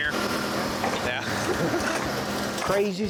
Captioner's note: laughs